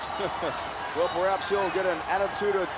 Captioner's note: laughs